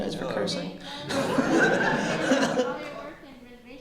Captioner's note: laughter